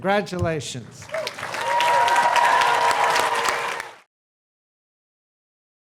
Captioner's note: audience applauding